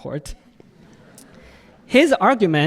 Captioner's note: audience laughing